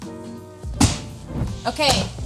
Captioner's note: bread slaps